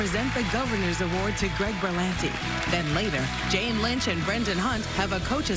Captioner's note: applause